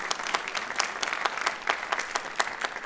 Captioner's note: applause